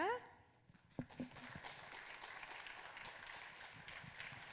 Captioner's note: applause